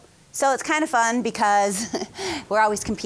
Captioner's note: laughing